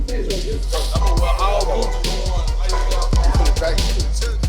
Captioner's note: chatter